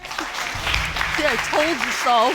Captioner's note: audience applauding